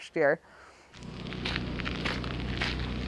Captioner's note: footsteps